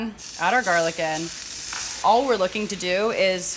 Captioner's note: pan sizzling